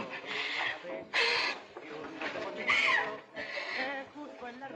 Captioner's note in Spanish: Solloza